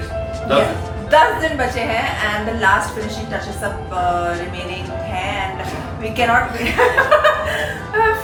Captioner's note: laughs